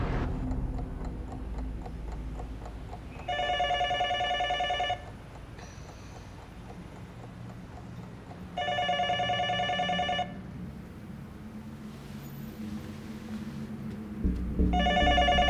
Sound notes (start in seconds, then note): 1.2 clock ticking; 3.2 telephone ringing